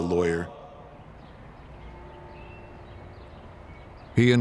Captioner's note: bell tolling